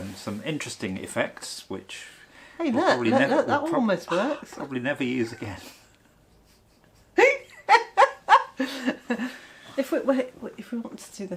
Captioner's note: laughter